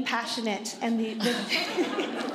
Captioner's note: laughter